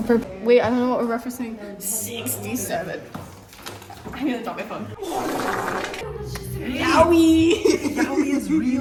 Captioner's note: laughter